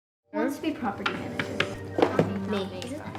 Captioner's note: kids talking in background